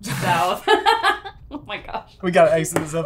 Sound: laughs

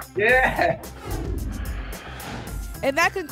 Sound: whoosh

